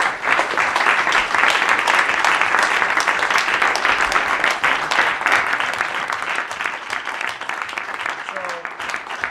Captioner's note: applause